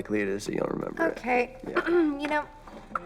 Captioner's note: clears throat